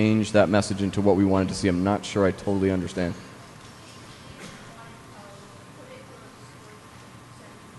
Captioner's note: off mic